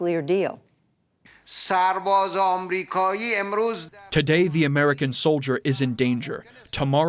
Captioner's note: through translator